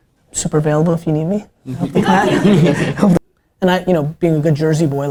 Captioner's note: laughter